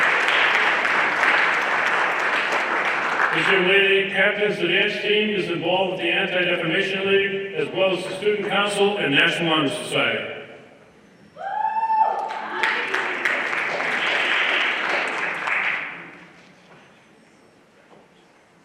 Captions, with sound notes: This young lady captains the dance team, is involved with the Anti-Defamation League as well as the student council and National Honor Society. (everyone applauding)